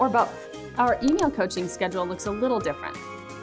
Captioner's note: mouse Click